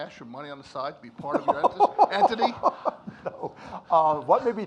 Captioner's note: Mark laughs